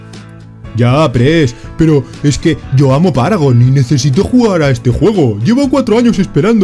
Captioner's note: stupid voice